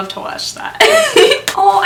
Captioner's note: giggles